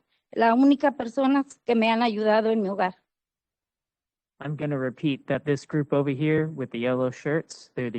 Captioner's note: speaking Spanish